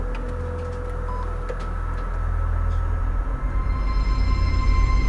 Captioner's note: machine beeps